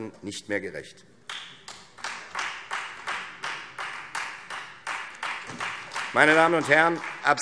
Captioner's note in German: Beifall Freie Demokraten